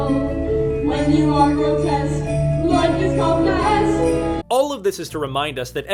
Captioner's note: sleigh bells in background